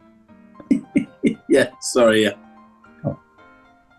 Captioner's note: giggling